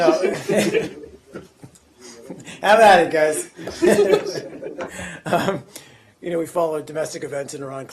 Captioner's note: laughter